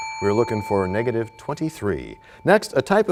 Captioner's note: bell rings, time expires